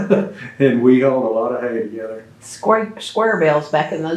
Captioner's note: laughs